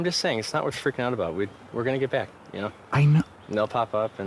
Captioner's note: agitated